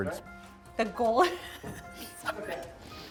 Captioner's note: laughs